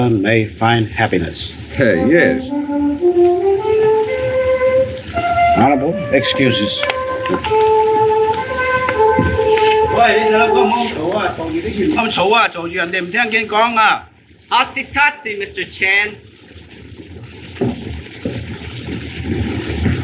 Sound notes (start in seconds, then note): 10.7 speaking Chinese